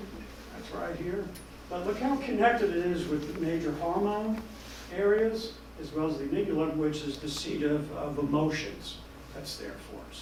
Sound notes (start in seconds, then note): none